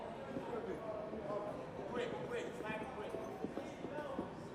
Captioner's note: people chattering